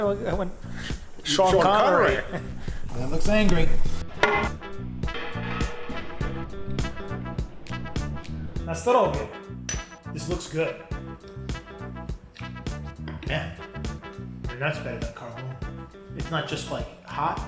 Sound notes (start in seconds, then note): 1.6 chuckles; 4.1 pan thuds; 4.2 chill music; 8.6 speaks in foreign language; 11.1 chill music